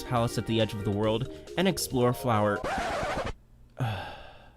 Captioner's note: record scratch; sigh